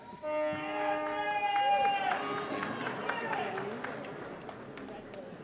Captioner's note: applause & Cheering